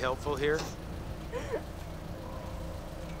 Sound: cheerleaders crying

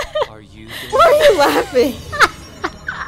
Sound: laughing; laughing

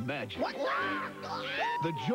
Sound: Gonzo and Rizzo the Rat yell

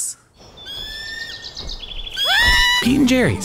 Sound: birds chirping; person screaming

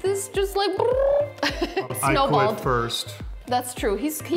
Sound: chuckling

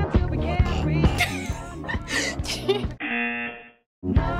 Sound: snickers and laughs; buzzer

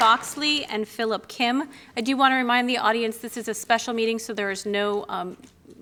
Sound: applause

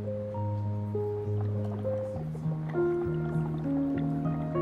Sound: fluid bubbling

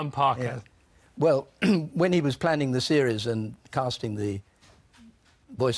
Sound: cough

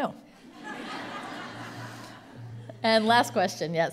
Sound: laughter

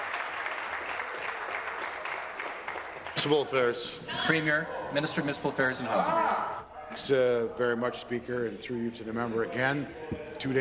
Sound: applause

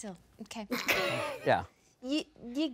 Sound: laughing

